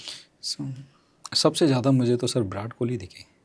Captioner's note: nasal sound